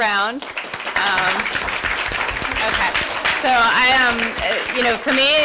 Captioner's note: applause